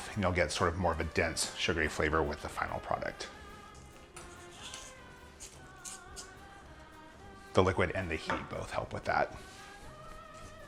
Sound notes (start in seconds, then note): 4.1 scraping